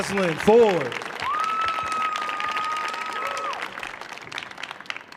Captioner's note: audience cheering